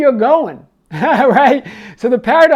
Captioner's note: laughs